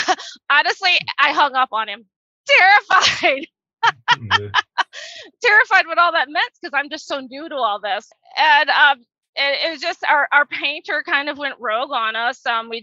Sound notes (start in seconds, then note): 3.8 laughs